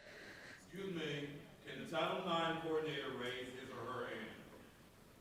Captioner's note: speaking faintly off mic